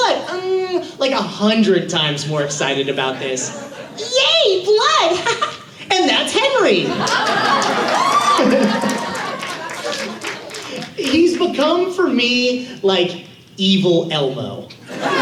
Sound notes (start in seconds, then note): 4.0 high-pitched voice